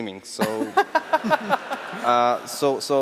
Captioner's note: laughter